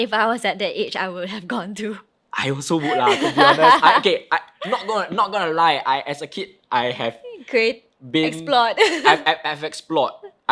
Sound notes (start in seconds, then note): 2.8 laughs